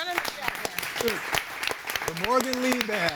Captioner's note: audience applauds